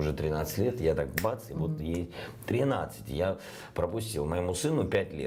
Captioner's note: snaps fingers